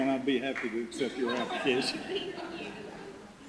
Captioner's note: audience laughter